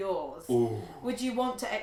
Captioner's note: gasping